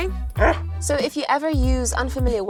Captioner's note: dog grunting